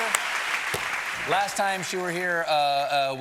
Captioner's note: cheers and applause